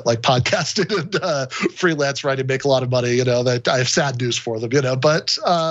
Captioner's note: laugh